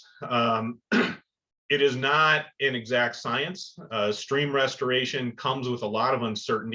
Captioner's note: cough